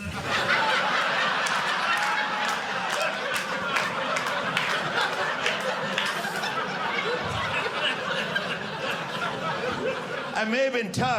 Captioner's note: audience laughing